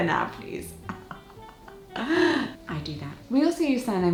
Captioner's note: painful laugh